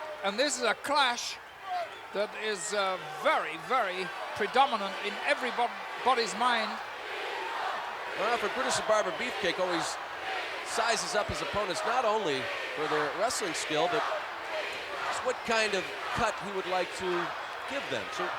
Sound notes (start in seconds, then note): 7.2 applause